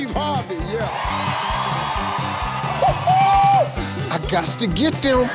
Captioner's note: audience cheers